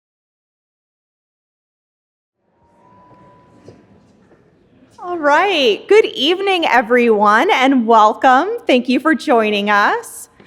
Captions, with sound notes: (attendees chattering) - All right. Good evening, everyone, and welcome! Thank you for joining us.